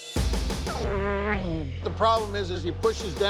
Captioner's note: groaning